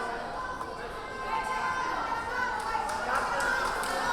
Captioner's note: yelling